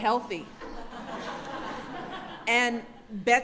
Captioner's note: laughter